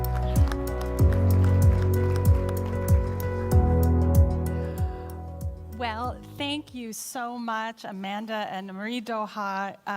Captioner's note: applause